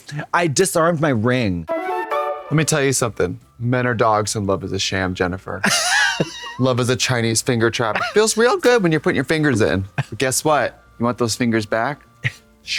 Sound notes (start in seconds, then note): 1.7 whimsical chime